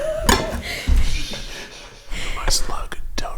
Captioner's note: laughing; shushing